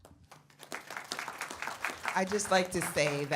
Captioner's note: audience applauds